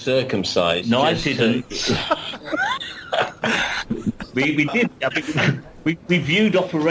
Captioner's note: laughs